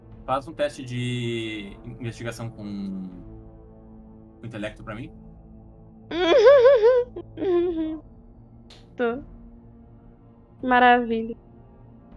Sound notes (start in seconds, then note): 6.2 laughs